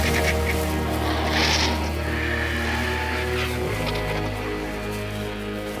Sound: squawking

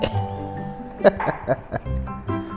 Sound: laughs

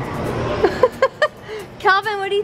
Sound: laughs

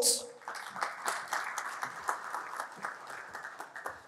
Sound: applause

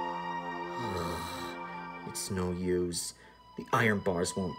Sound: sighs

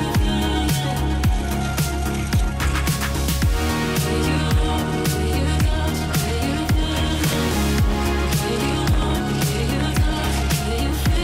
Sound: wind blowing

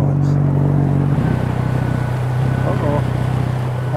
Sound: boat engine running

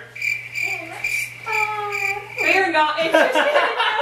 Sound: crickets

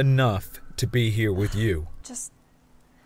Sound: sighs

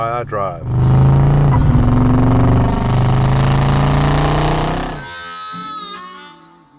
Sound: car engine roaring; soft music

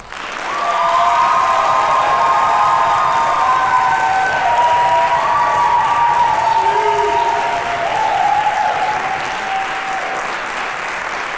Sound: applause

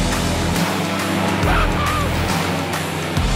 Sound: laughs

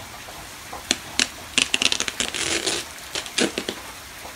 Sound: package being opened

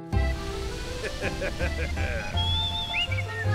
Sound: chuckling; whistling continues

